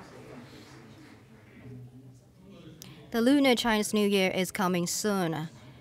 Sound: applause

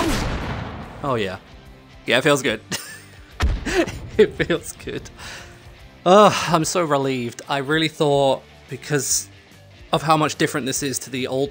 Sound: big exhale

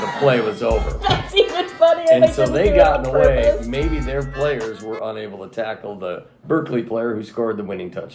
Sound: laughing

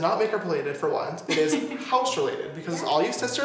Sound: laughs

